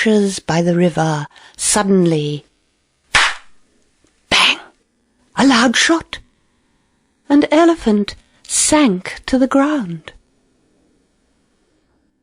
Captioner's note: gunshot noise